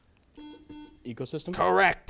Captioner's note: buzzer